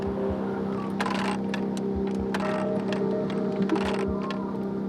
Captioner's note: ratchets clanking